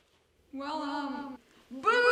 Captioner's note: spooky voice